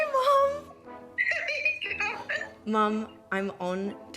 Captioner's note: laughs